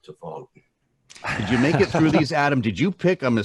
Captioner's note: laughs